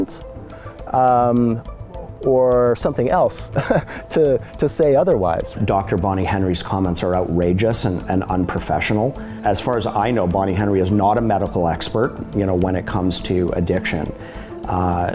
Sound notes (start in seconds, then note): 3.4 chuckles